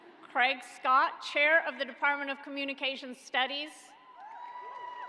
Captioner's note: applause